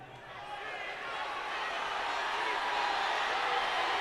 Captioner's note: crowd chattering